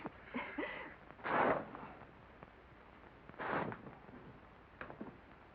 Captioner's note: cloth tears